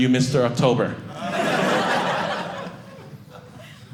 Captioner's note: audience laughing